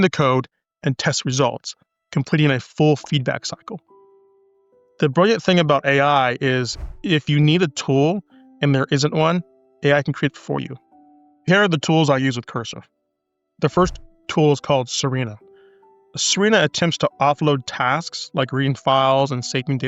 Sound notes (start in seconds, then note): 6.6 whoosh